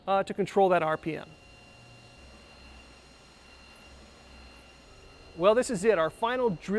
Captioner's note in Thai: เสียงเครื่องเจาะ